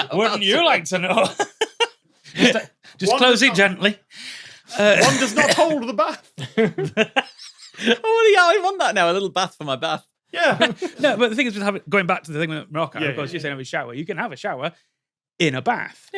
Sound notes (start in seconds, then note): 1.0 giggles; 6.4 snickers; 6.6 wheezes